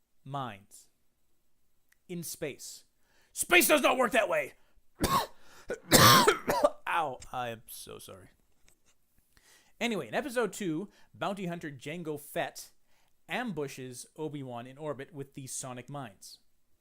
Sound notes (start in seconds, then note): 5.6 horrible coughing